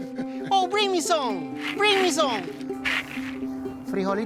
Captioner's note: speaking Spanish